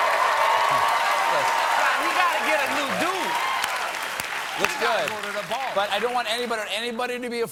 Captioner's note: cheers and applause